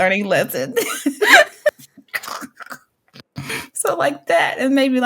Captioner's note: chuckle